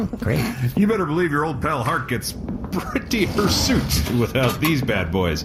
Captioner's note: chuckling